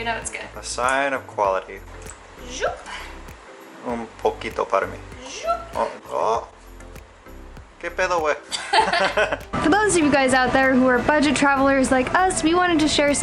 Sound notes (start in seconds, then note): 8.5 laughter